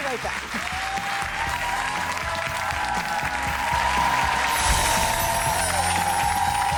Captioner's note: upbeat music; audience cheers